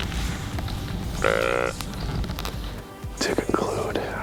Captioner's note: deer call grunts